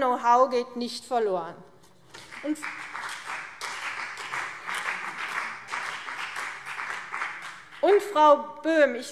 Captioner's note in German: Beifall CDU und vereinzelt BÜNDNIS 90/DIE GRÜNEN